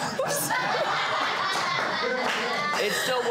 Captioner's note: laughter